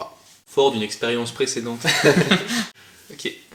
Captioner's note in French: rires